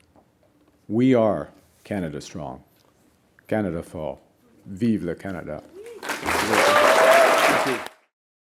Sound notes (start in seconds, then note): 5.8 applause